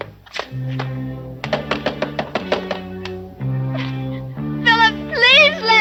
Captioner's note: knocking on door